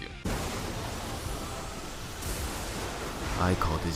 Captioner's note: lightning and dramatic music